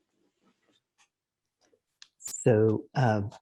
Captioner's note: clicking